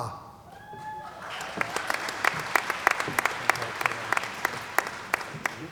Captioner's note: applause